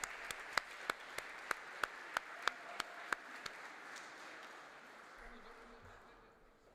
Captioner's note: applause